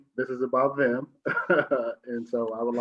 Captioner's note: laughs